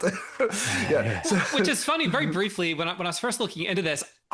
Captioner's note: laughs